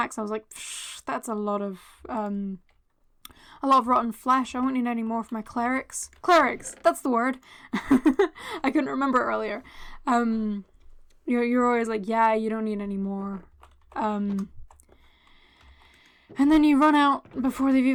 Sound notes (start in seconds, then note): 7.7 laughter